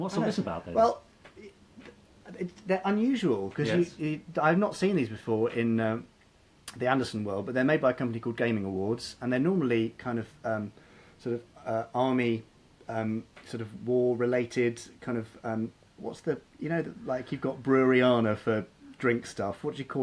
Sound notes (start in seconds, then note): none